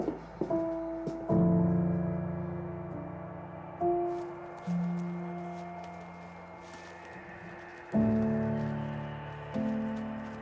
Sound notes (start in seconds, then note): 3.9 insects chirping; 7.8 gentle music